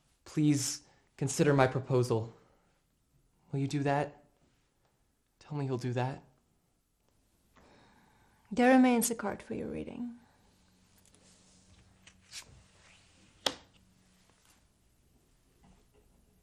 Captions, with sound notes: Please, consider my proposal, will you do that? Tell me you'll do that. - There remains a card for your reading. (card flipping)